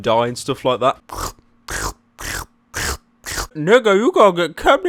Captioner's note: slurping